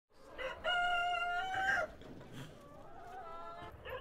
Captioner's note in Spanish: gallo cantando